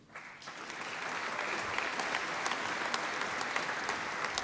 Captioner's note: applause